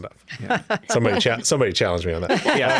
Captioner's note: laughing